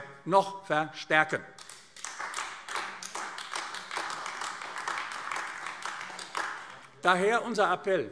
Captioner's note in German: Beifall AfD